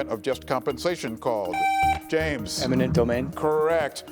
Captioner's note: buzzer buzzing